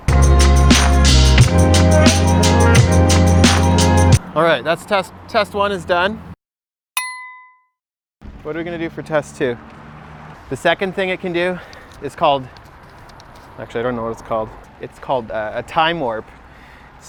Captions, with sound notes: (upbeat funky music) Alright, test one is done. (Ding) What are we going to do for test two? The second thing it can do is called, actually I don't know what it's called. It's called a time-warp.